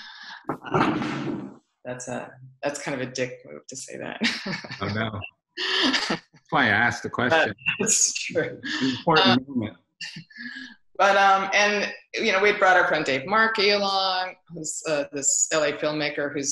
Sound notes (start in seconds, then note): 4.2 laughs